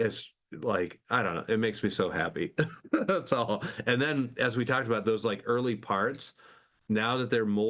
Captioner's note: laughs